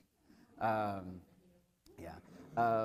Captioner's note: laughter